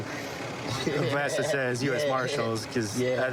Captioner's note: laughing